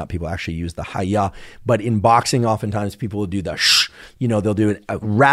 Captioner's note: exhales sharply